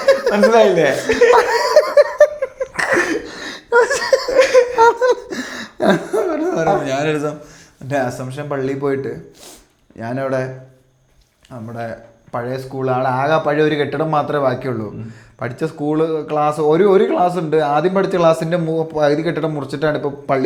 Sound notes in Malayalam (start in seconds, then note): 0.0 പൊട്ടിച്ചിരി; 9.3 ചീറ്റുന്നു